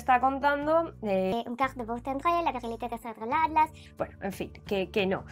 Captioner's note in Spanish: Hablando francés